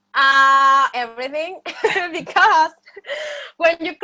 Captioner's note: laughs